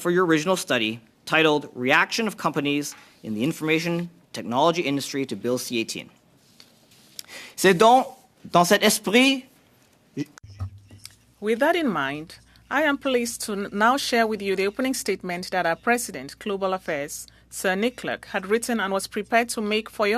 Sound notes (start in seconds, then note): 13.7 speaking French